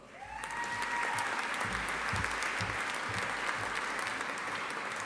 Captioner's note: audience applauding